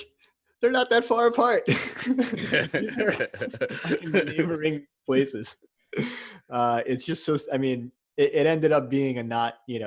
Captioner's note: laugh